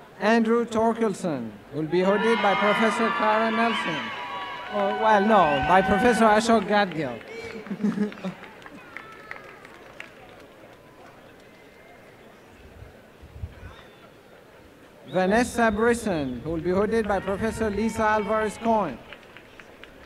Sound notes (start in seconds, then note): 8.4 applause and cheering